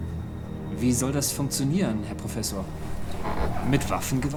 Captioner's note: speaking in German